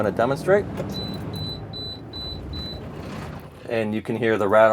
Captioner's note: truck rattling